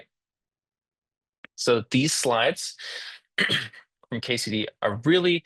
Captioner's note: interpreter clears throat